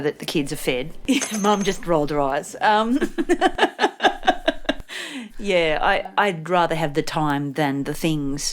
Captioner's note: laughs